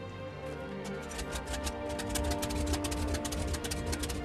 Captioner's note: engine sputters